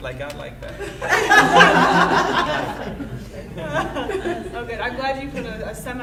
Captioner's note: audience laughing